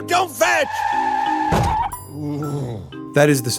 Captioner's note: squealing tires, a dull thud, the dog whimpering